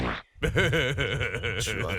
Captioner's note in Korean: 웃음소리; 첨플링 방귀 소리